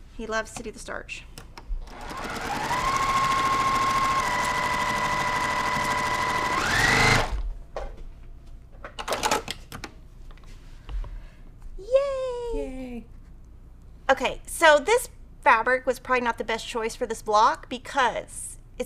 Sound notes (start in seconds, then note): 1.8 sewing machine clunking